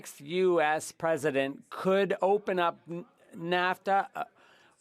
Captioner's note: speaking French